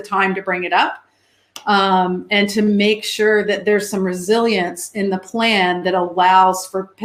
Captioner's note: erm